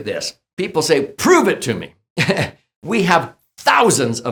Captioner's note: chuckles